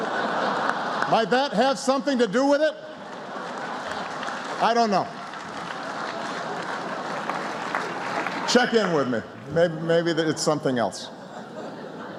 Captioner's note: laughter